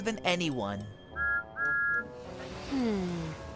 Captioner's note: thomas whistles